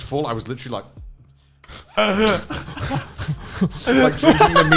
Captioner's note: laughing